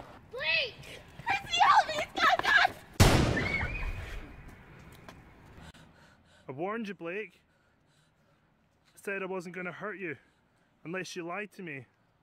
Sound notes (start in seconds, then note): 3.0 gunshot fires